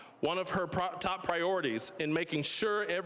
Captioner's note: none